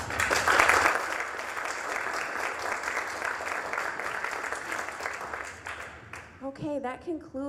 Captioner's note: applause